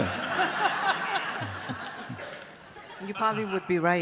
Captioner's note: audience laughs